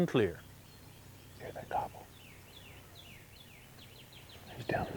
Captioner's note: whispering